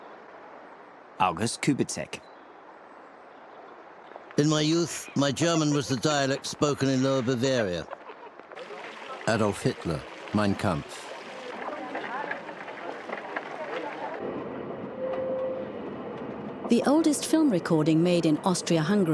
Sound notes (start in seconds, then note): 12.3 clacking